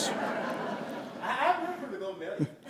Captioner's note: laughter